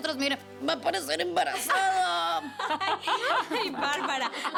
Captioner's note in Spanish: Risas